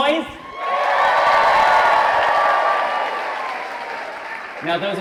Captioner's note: audience cheering